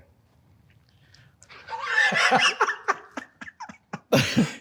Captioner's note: both laugh